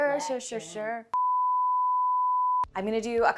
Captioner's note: screen beeping